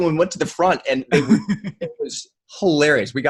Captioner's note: laughs